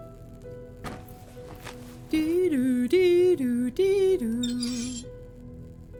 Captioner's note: humming